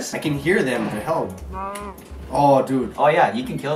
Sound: cow moos

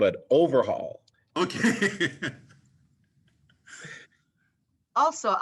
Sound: laughter

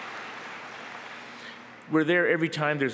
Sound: applause

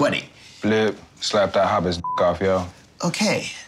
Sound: beep

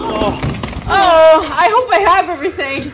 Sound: cast groaning

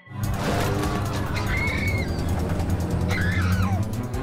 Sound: screams

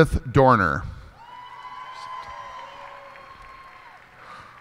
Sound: cheers and applause

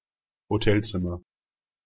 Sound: fast Pronunciation

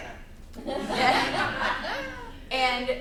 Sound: laughing

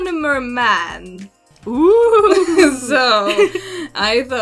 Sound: nervous noises

